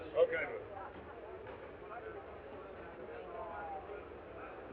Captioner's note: all chattering